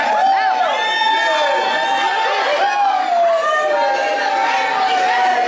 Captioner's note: people chattering excitedly